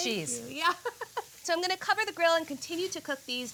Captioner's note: laughs